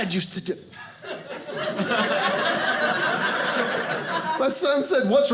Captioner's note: audience laughing